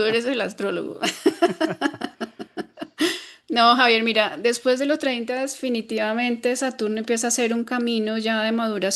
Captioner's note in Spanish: risas